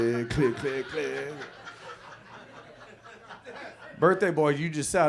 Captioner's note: audience laughs